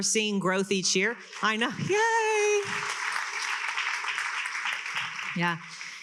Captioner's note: attendees applauding